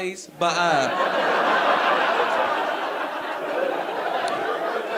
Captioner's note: audience laughing